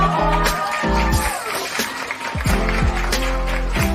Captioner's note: applause; upbeat music